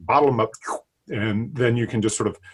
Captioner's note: slurping sound